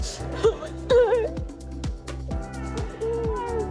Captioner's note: sobs